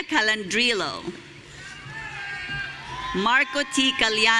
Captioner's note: audience cheering